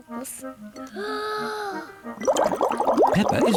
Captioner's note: takes big breath